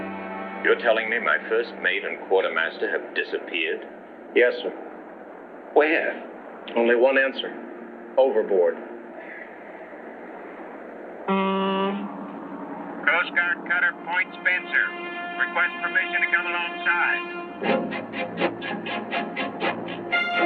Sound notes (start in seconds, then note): 11.2 horn honks; 17.1 dramatic music